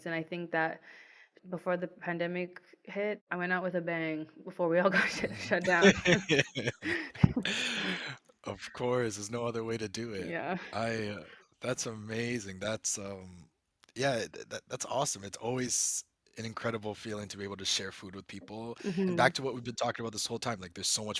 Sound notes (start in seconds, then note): 7.5 laughs